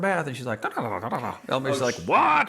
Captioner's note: babbles